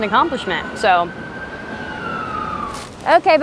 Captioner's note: siren wailing